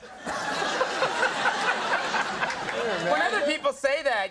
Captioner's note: Conan laughing